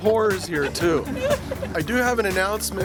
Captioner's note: laughing